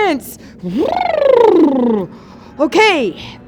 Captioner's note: bubbles